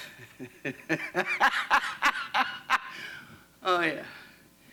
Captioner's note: laughs